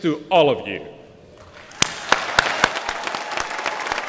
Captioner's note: applause